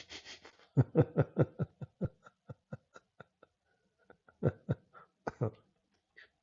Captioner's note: Ketawa